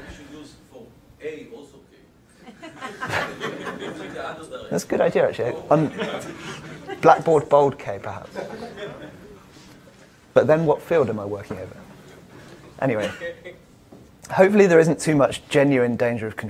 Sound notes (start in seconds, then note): 5.4 audience laughs